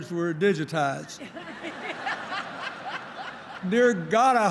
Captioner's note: laughter